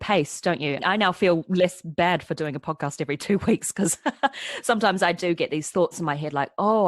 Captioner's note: laughs